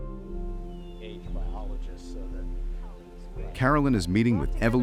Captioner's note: birds chirping